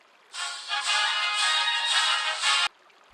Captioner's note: ringtone